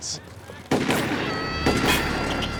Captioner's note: shots firing